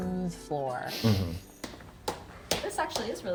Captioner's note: laughs